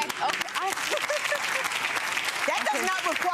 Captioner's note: clapping; laughing